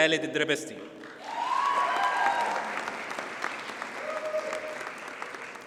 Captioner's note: audience cheers and applauds